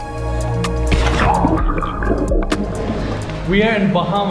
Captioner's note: water splashing